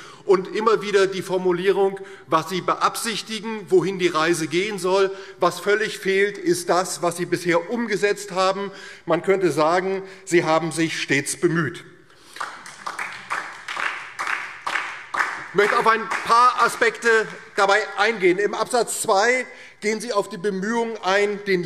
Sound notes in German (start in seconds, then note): 12.3 Heiterkeit und Beifall DIE LINKE und vereinzelt SPD